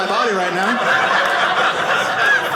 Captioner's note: audience laughing